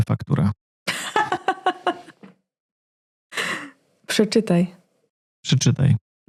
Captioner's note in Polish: śmiech